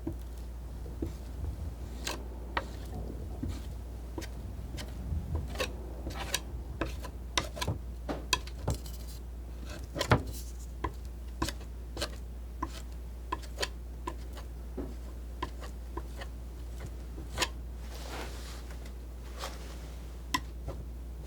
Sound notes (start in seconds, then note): 2.3 scratching